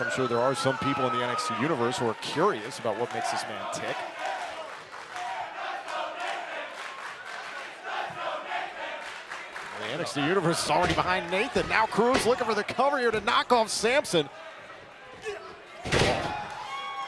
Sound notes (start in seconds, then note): 9.2 fans chanting